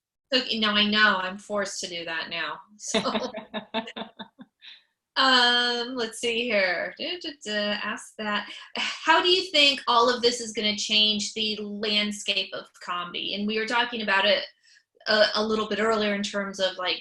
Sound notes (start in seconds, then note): 2.9 laughs